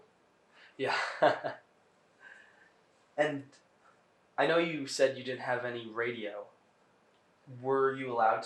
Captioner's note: laughing